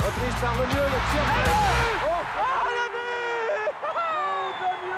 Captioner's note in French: applaudissements